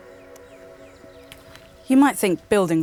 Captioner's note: birds chirping